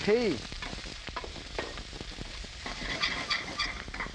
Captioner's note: sizzling